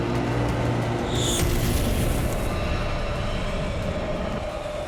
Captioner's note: blasting